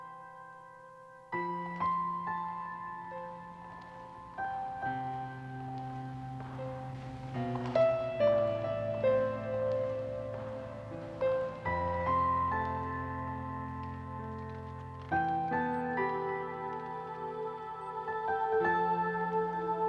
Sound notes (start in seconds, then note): 4.1 footsteps